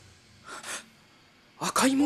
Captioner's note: gasp